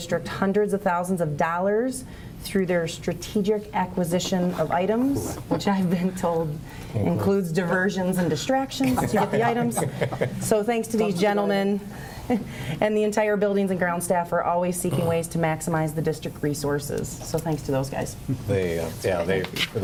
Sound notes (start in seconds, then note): 8.8 laughter